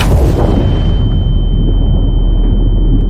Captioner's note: explosions; echoed ringing